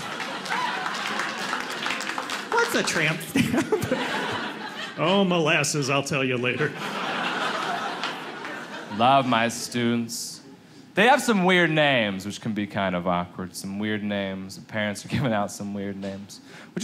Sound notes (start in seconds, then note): 0.0 audience applauding; 6.4 audience laughing